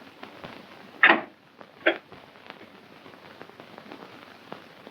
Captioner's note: door opening